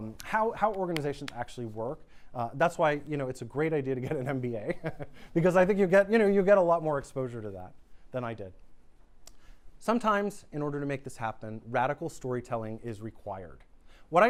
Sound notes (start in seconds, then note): 4.2 laughs